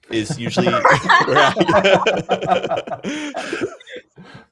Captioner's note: laughter